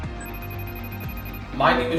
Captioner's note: phone ringing